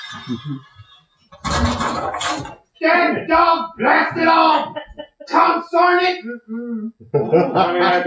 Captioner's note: crash